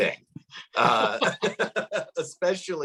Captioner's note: laughs